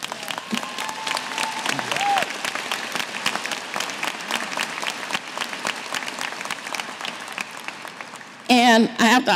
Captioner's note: cheers & applause